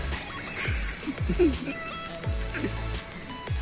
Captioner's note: idiotic Laughs Again & Helicopter Jumping From One Point To Another